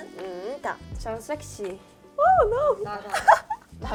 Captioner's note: laughter